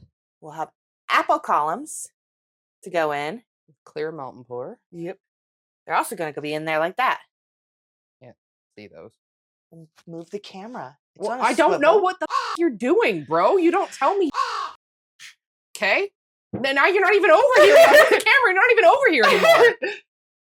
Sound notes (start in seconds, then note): 12.2 caw; 14.3 caw